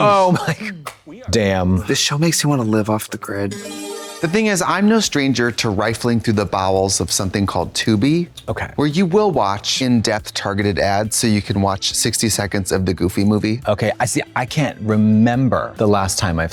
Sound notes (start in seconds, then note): 3.5 bright chime